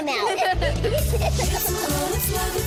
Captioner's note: laughing